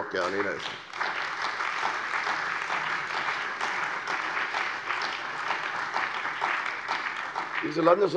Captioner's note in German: Beifall bei der CDU und dem BÜNDNIS 90/DIE GRÜNEN